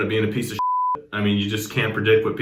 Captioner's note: beep